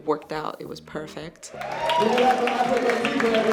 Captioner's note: audience applauds; audience cheers